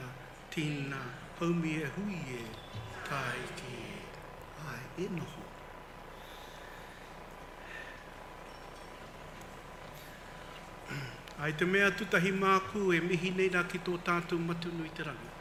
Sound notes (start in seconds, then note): 3.1 congregation speaks in foreign language; 4.8 speaks in foreign language